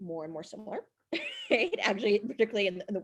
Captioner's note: laughs